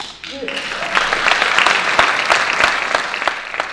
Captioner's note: audience Clapping